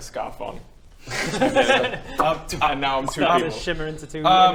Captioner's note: pop